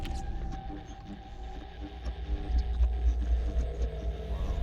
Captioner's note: static crackling